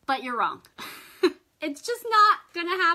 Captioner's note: laughs